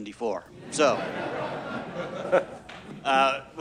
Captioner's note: audience laughs